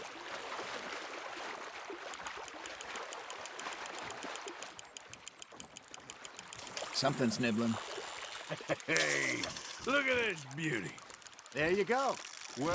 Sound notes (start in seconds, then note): 8.4 catches a fish and laughs